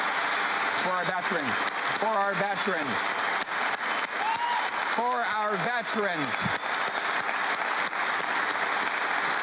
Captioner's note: cheering